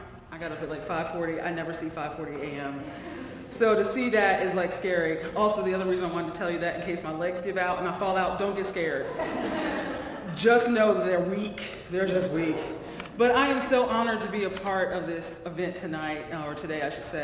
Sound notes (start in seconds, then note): 3.2 laugh; 9.0 laugh